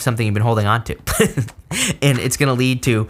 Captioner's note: chuckles